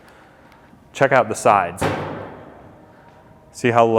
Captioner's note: hood bangs